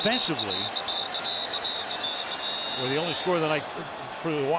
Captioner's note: whistling